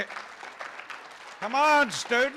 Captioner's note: room applauds